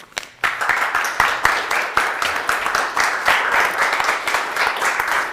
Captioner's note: audience applauding